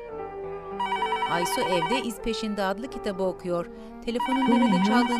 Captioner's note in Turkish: Telefon zili sesi